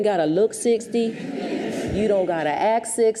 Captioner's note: audience chuckles